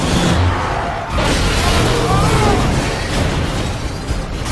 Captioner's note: crash